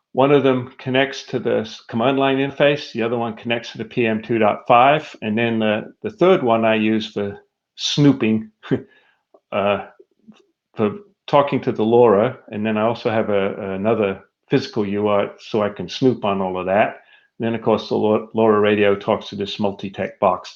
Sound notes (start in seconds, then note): 9.1 laughs